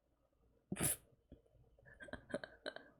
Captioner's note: chuckles